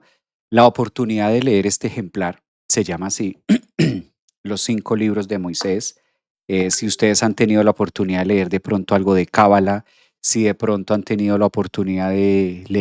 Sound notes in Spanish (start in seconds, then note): 3.4 carraspeo